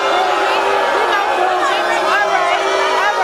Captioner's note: audience booing